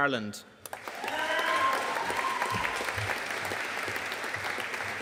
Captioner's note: audience cheering and applauding